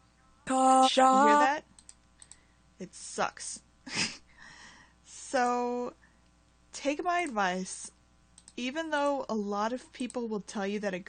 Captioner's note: chuckle